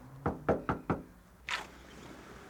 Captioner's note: knocking on door